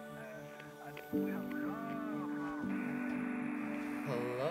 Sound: radio Static

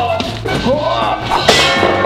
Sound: grunting sounds; object clattering

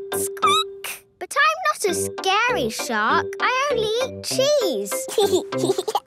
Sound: squeaking; giggling

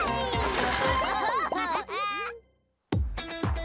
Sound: laughing; upbeat music

